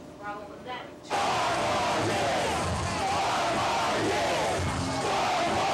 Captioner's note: chanting